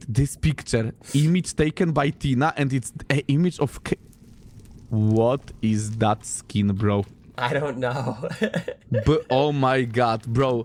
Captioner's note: laughter